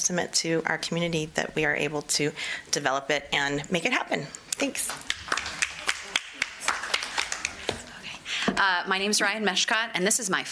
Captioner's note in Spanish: Aplausos